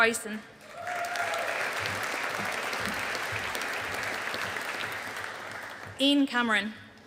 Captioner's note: audience applauding